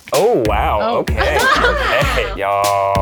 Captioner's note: group laughs